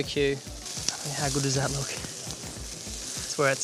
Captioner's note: meat sizzling